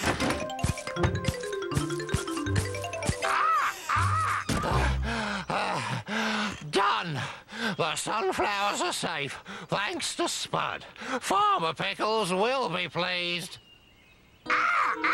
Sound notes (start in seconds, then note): 4.6 breathless; 14.4 cawing